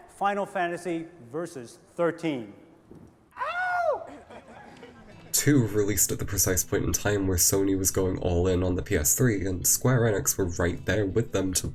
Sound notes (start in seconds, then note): 3.4 crowd; 4.0 laughter